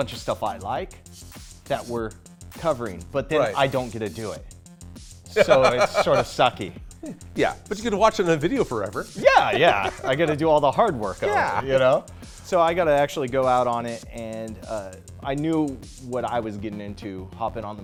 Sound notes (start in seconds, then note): 5.3 laughs